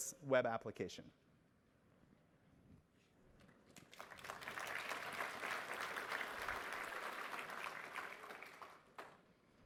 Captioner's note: applause